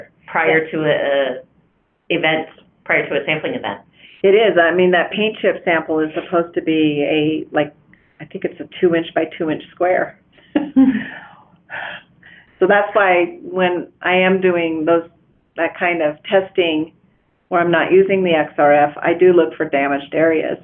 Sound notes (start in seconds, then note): 10.5 laughs